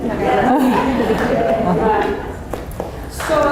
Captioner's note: laughter